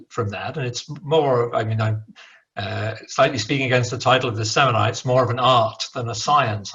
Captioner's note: murbles